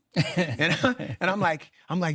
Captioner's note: laughing